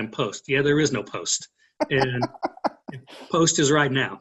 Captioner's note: laughing